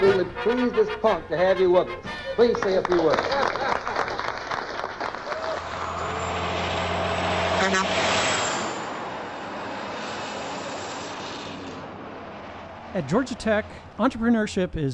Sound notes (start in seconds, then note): 2.3 applause; 5.3 traffic sounds, truck air horn